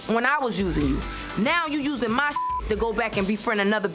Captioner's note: beep